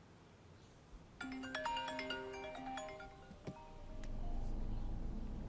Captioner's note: cell phone ringing